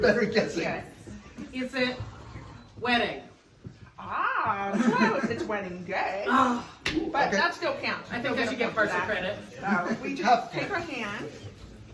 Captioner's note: knee slap